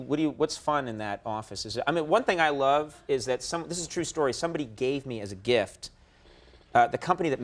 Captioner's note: none